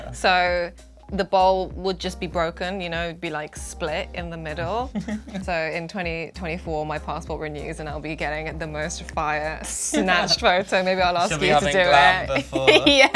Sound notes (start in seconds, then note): 4.9 laughing